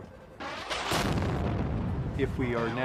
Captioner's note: explosion booming